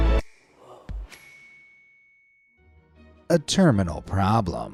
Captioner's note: logo dinging